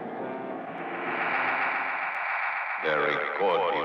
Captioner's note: magnetic humming